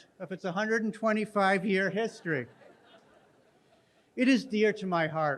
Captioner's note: audience laughing